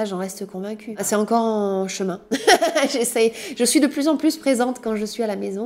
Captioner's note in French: rires